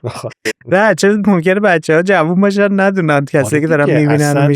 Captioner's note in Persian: خنده